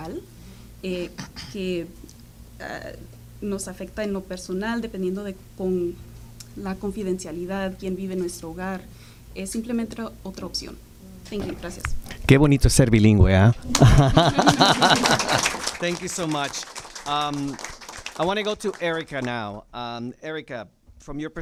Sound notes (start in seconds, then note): 7.9 speaking spanish; 17.1 applause